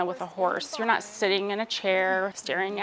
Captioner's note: people speaking indistinct